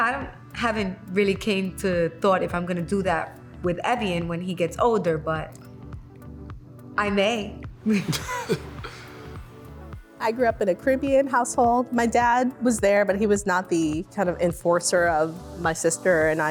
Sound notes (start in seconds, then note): 7.9 laughs